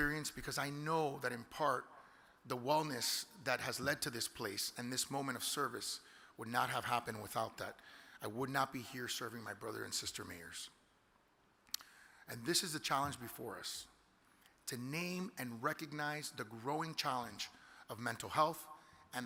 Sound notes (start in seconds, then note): none